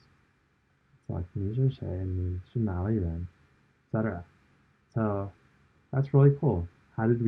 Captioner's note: speaking chinese